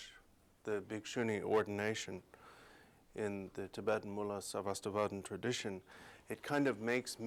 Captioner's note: non-english speech